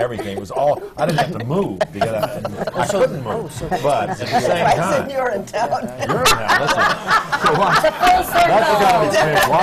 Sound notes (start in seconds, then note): 0.0 laughs; 7.8 laughter